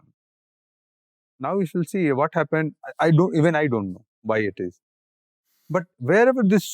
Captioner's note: in English